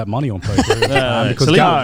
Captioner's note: laughs